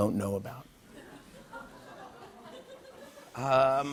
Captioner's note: laughter